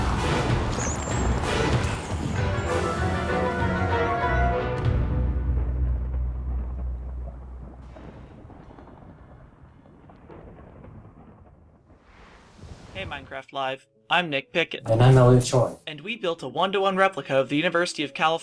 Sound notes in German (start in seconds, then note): 0.6 fledermäuse kreischen; 5.7 musik stoppt, donner